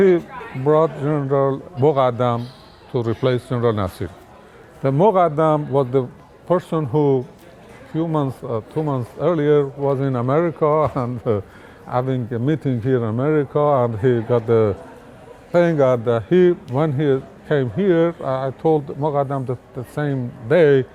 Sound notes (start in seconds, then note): 11.2 laughs